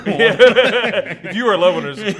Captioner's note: laughs